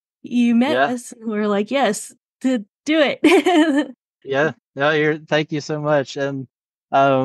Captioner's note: laughs